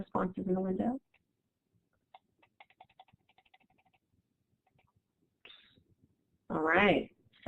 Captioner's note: silence